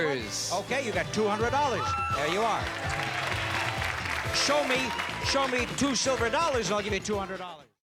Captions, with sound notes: -Okay, you got $200. There you are. -(cheers and applause) -(theme music playing) -Show me two silver dollars. I'll give you $200.